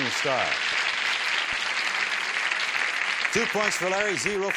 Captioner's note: applause